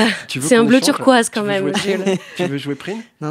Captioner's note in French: rire